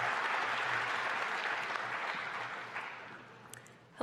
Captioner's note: applause